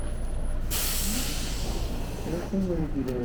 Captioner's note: bus noises